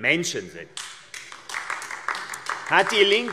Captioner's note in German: Beifall AfD